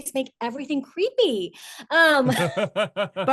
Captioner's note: laughs